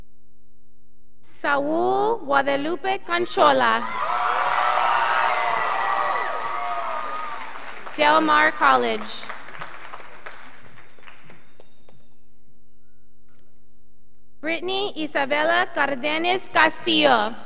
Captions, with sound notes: Saul Guadalupe Canchola, (scholars applauding) Del Mar College. Britney Isabella Cardenes Castillo,